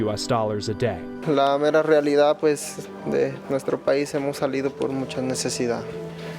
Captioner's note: speaking in foreign language